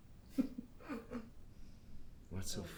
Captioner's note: Vanessa laughs